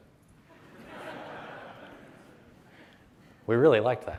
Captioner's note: audience chuckles